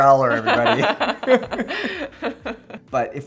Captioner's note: laughs